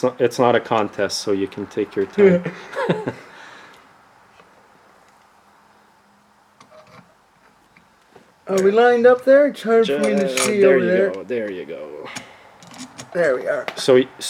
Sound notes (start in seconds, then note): 2.0 laughs